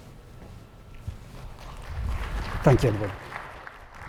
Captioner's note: applause